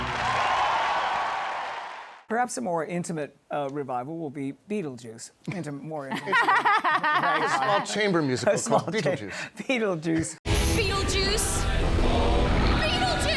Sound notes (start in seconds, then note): 0.0 cheers and applause; 6.1 laughter